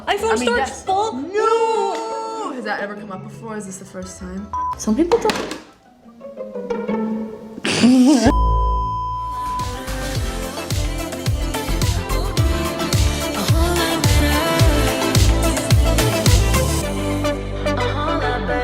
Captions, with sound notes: iPhone storage full! No! - Has that ever come up before? Is this the first time? Some people- (object falls) (comedic music)